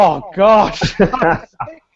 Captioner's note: both laugh